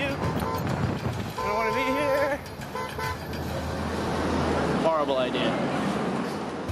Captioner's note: car horn honks